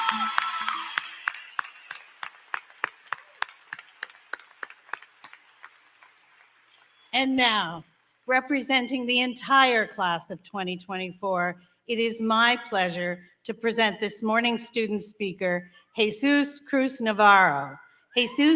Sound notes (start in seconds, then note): 7.1 applause; 7.1 cheering